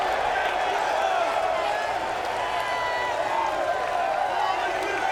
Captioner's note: crowd cheering continues; crowd clamoring